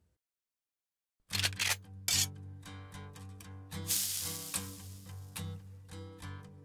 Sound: camera clicks; pan sizzles

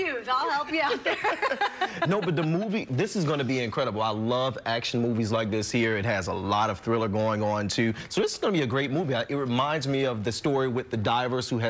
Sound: laughter

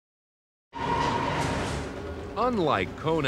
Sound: subway car screeching

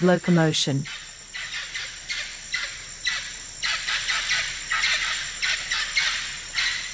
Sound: forest sounds

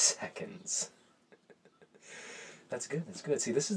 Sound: laughs

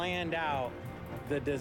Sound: none

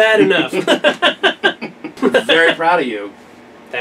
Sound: laughing

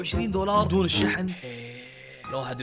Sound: sighs

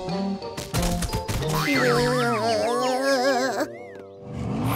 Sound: groaning

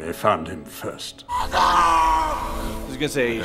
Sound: shrieks

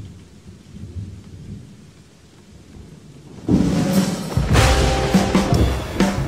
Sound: rain and thunder

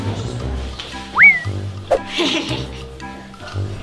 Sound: whistle; evil laughing

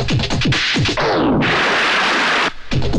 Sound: ocean Waves

